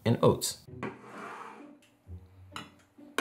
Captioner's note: can sliding